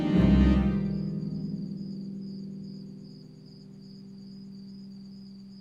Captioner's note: crickets chirping